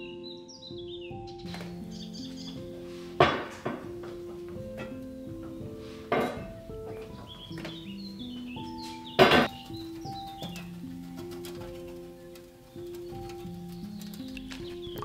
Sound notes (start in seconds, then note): 9.5 sprinkling